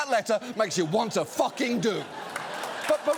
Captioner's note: audience laughs, applauds